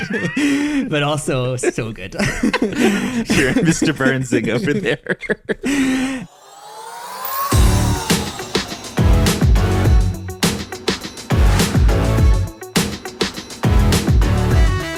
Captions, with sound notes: (both laughing) - But also so good. (both laughing) - Hearing Mr. Burns over there. (laughs) (energetic upbeat music)